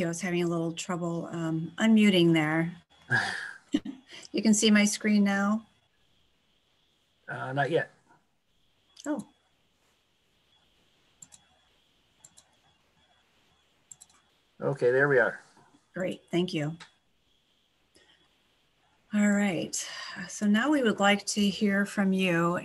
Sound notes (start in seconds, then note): 3.1 chuckles; 11.2 clicking